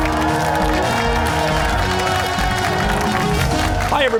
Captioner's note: cheers and applause